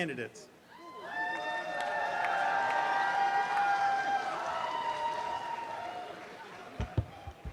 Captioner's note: applause and cheering